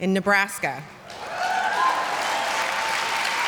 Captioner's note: applause